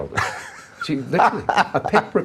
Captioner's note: laughing